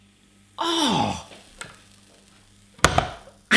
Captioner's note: he gasps